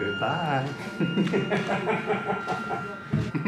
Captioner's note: maniacally laughs